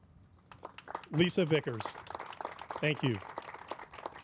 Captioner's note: crowd applauding